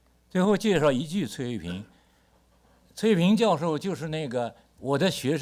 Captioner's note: speaks Mandarin